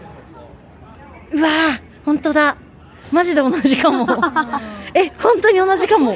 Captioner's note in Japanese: 笑い